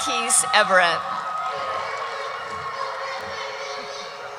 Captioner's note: cheering